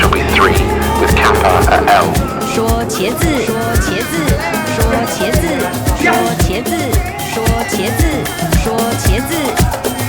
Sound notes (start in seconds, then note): 2.8 speaker speaking foreign language; 7.2 intense music